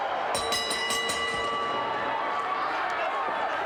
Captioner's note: bell rings